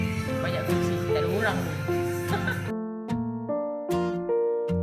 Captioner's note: laugh